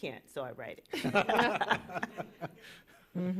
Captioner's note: laughter